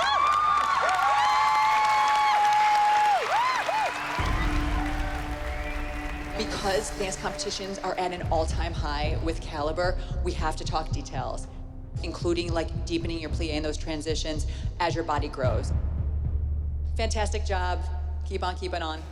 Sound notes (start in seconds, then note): 1.1 applause and cheering; 3.4 applause, cheering and whistling